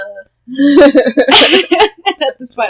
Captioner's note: laughter